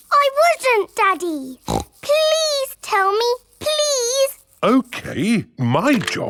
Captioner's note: snorts